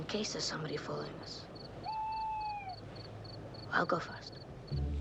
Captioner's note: owl hooting